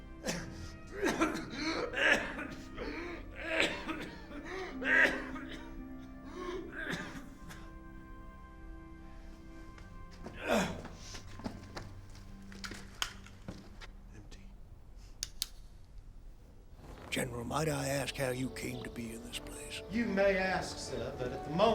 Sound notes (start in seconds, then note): 0.1 coughing; 10.3 grunts; 12.6 click